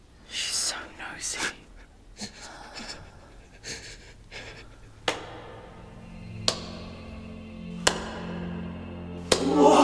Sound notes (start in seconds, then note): 2.2 Daniel whimpering; 5.2 clapping